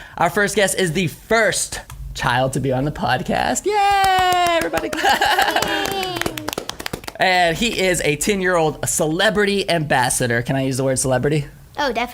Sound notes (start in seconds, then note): 3.8 clapping